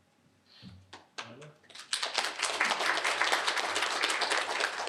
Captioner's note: applause